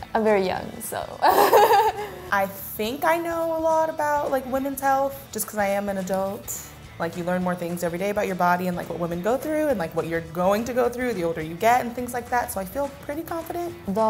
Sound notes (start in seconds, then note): 1.2 both laugh